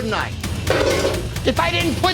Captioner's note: pan clanks